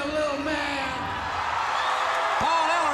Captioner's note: crowd cheering